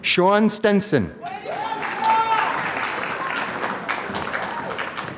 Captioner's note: applause